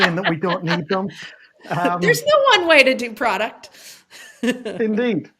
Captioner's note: laughs